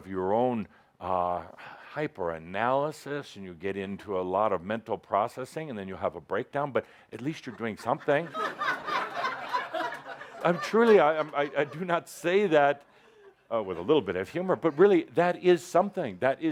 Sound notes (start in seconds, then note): 7.5 laughter